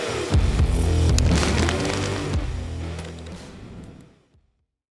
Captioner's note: fire crackling